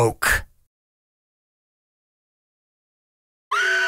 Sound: klaxon alarm sounds and screaming

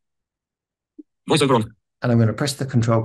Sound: screen reader noises

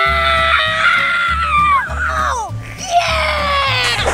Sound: screaming; splash

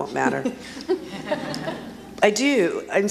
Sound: audience laughs

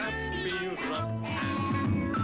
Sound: rump thumps

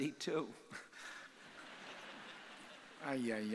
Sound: audience laughing

